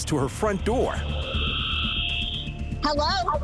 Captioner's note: whirring